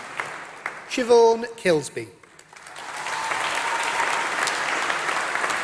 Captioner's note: applause